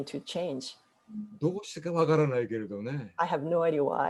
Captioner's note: speaking japanese